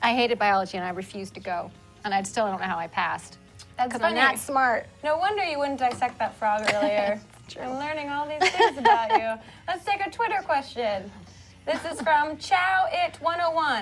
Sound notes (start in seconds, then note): 11.6 laughs